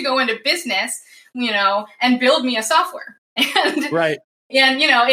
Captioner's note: laughs